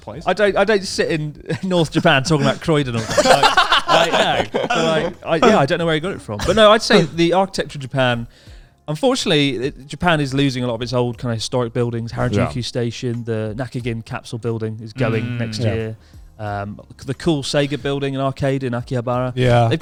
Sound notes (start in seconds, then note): 1.8 laughing loudly